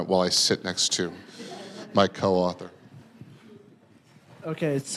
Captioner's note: audience laughing